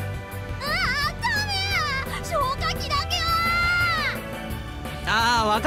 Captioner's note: very panicked scream